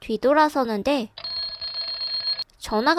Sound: ringtone

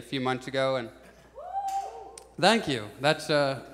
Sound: audience shouts

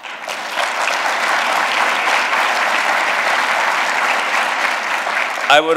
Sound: applause

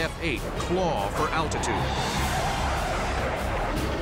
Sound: jet engine noises

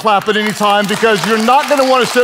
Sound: everyone claps

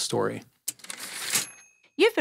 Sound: typewriter ding

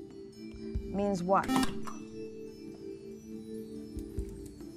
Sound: buzzer

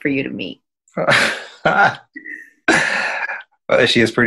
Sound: laughing

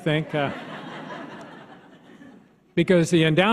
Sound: audience laughs

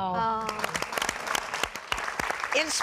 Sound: applause

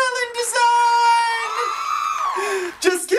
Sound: women cheering

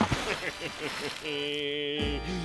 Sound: chuckles

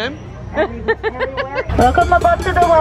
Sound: laughs

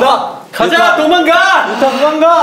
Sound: deep breath

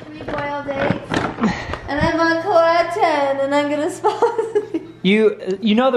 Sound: laughing

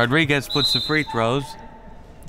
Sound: whistle

